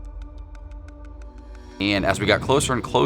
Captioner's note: clock ticking